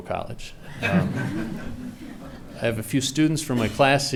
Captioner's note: laughing